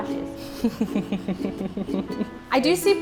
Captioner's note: laughing